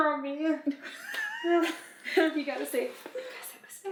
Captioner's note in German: Mama kichert